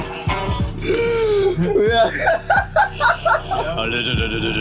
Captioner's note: cackling; guitar playing; cackling; laughing